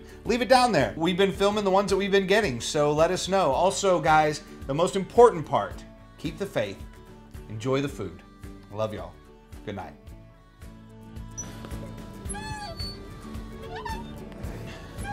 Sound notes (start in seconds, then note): 12.1 swing screeching